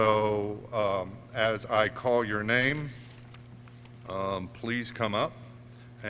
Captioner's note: none